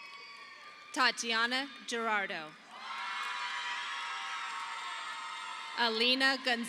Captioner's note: audience applauding